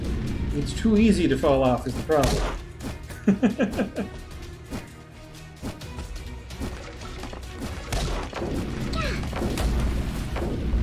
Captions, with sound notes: It's too easy to fall off, is the problem. [laughs]